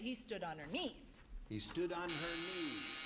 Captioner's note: buzzer